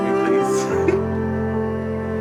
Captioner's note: laughing